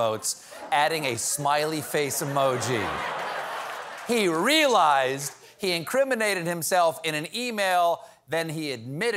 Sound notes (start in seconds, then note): 2.3 laughter; 2.6 applause